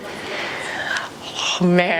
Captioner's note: sighs